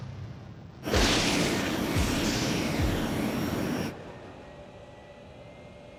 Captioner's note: thunder